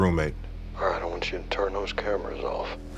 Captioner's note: on phone